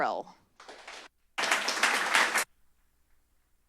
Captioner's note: applause